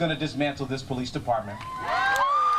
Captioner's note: cheering and applause